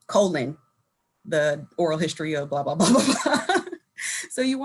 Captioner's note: laughing